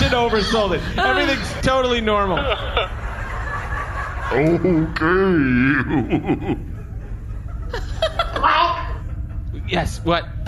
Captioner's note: chortles